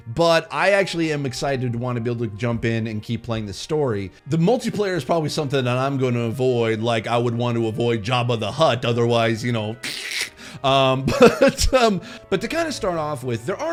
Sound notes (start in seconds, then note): 9.8 laughs; 9.8 imitates cutting noise